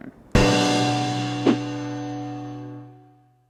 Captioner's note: loud gong